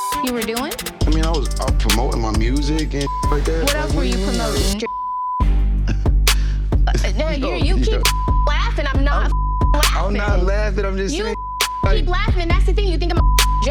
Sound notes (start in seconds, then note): 0.0 beep; 6.1 scoffs; 8.0 beep; 13.2 beep